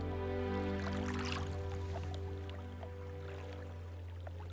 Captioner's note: water splashing